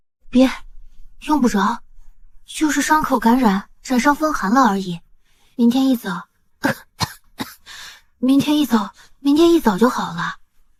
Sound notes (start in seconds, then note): 6.6 coughing